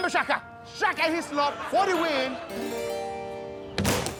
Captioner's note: audience laughing; harpsichord music